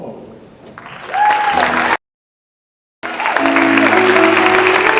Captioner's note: audience clapping